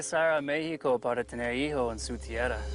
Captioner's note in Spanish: Con acento